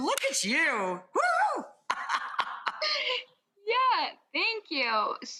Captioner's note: laughs